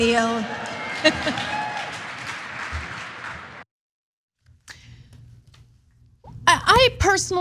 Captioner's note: applause